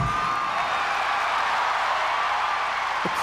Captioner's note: cheering